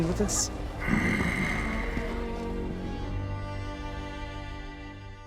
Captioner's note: Lurch groans